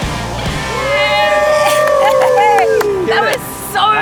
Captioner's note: cheering